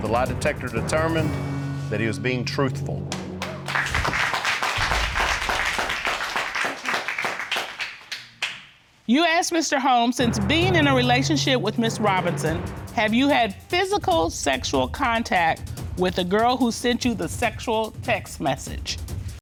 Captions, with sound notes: The lie detector determined that he was being truthful. [audience applauding] You asked Mr. Holmes, "Since being in a relationship with Ms. Robinson, have you had physical, sexual contact with the girl who sent you the sexual text message?"